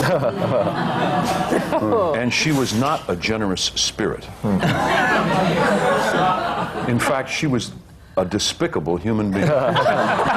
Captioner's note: laughter